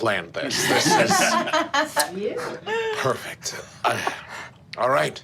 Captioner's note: group laughing